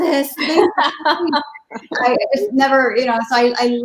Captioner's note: laughing